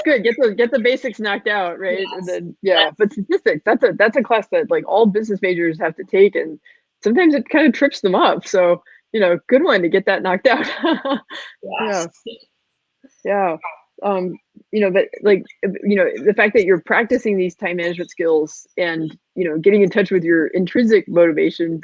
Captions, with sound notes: - Get the basics knocked out, right? And then, but statistics, that's a class that all business majors have to take, and sometimes it kinda trips them up. So good one to get that knocked out. (laughing) The fact that you're practicing these time management skills and getting in touch with your intrinsic motivation